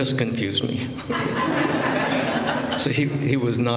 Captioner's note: laughter